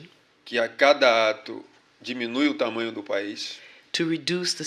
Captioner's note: speaking portuguese